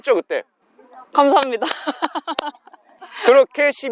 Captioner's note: laughter